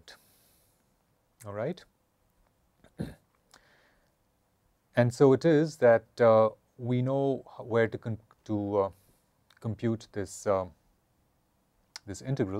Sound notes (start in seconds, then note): 2.8 cough